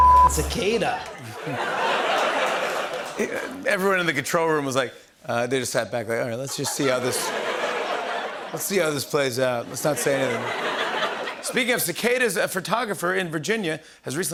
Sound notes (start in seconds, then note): 1.0 laughter; 6.4 laughter